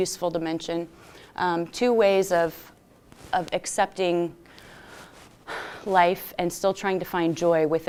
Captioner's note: sighs